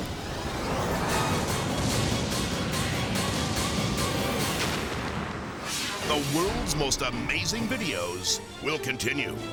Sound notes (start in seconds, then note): 2.0 jet exploding; 4.5 jet crashing